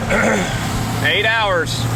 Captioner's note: clears throat